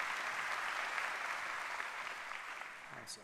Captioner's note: applause